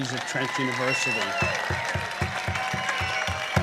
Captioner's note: applause